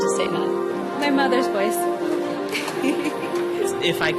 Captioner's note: laughs